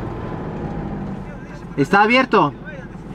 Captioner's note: in Spanish